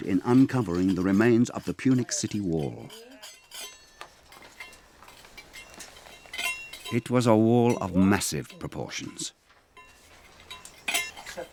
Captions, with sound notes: in uncovering the remains of the Punic city wall. (tools scraping) It was a wall of massive proportions.